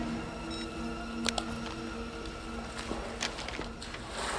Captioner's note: phone beeping